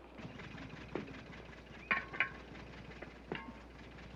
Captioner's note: clanging